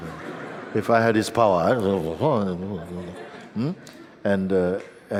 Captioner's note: laughter